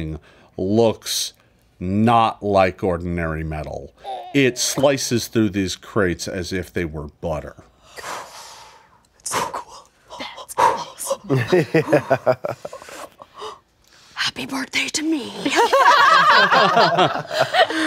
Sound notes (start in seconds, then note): 7.8 breathes heavily; 11.2 laughs